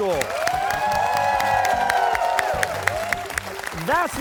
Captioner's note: cheers and applause